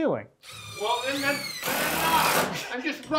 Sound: drill whirring

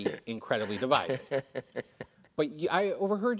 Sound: Tom laughs

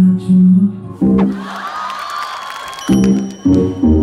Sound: everyone scream

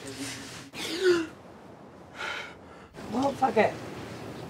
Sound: man gasping

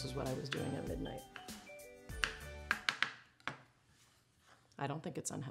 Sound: knife tapping cutting board

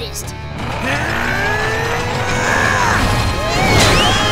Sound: grunting

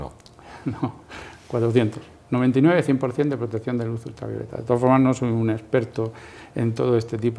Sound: laughs

